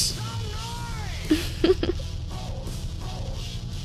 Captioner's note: giggles